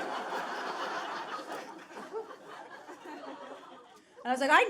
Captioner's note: audience laughing